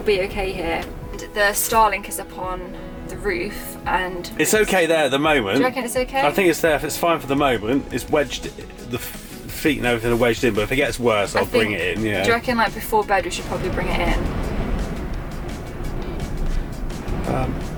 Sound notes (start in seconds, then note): 14.6 very loud wind noise